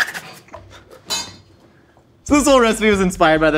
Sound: metal clanks

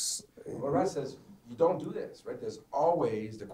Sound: voiceover

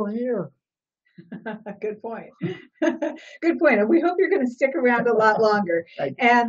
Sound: laughs

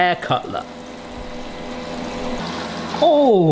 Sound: air fryer frying

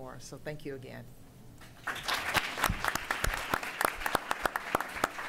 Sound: applause

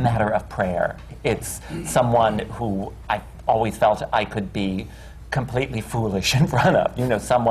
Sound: laughs

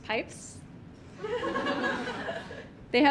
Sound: audience laughing

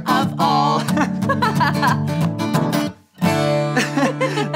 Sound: girl giggles

